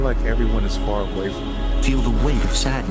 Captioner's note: vehicle horns blaring